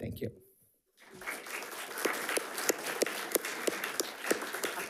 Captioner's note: attendees clapping